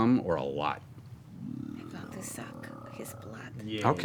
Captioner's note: whispering